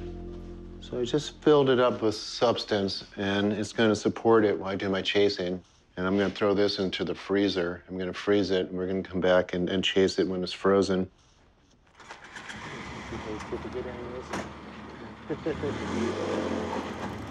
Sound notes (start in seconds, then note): 13.2 indistinct chatter; 15.1 chuckles